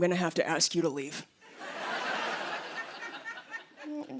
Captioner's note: laughter